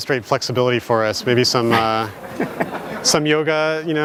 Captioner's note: audience laughs